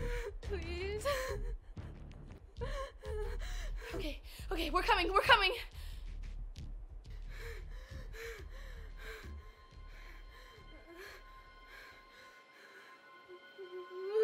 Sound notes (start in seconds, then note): 7.1 Stephanie panting; 10.8 suspenseful music